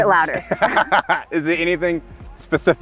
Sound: laughs

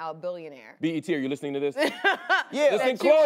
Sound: laughs

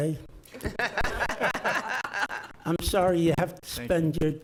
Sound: laughs

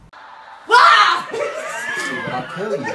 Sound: screams; background laughs

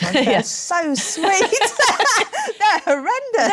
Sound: laughter

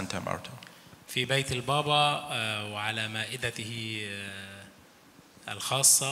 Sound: speaks in foreign language

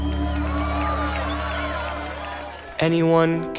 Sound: crowd cheering

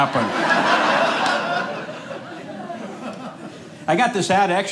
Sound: audience laughing

